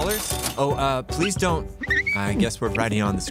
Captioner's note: cash register dinging; marker squeaking